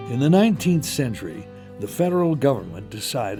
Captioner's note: voiceover